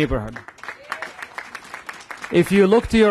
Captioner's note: applause